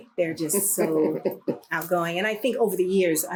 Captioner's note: laughter